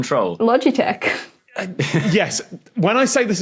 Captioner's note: chuckles